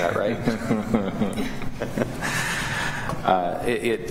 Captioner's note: laughter